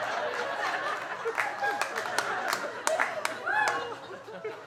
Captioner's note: audience laughing